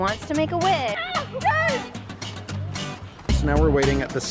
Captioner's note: children screaming